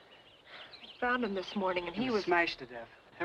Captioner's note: sighs